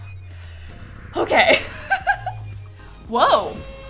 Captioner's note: deep breath